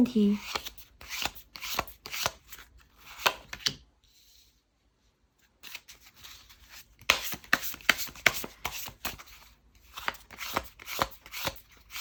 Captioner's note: drawing cards